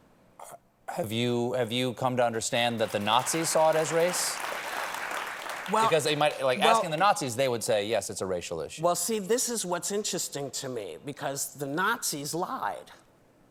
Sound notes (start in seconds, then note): 5.6 applause